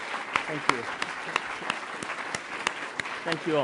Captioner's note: applause